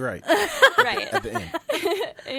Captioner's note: laughing